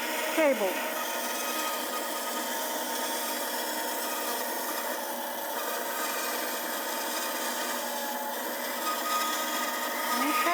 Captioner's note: saw cutting wood